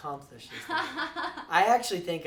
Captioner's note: laughs